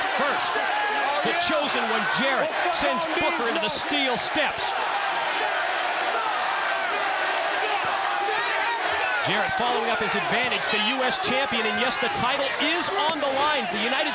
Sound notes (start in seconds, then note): 3.5 crowd cheering